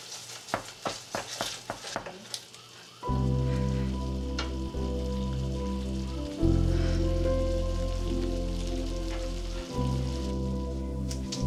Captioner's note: knock at door